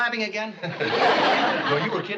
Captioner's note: laughs